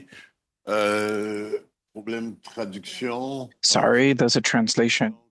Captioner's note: speaking French